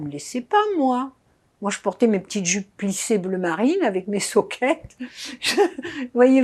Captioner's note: laughing